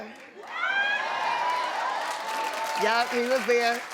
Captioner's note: cheering and applauding